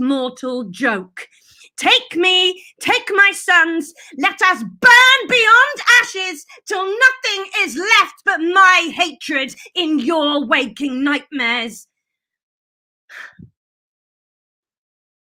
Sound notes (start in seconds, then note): 13.1 breath